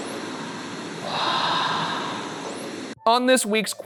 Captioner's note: voiceover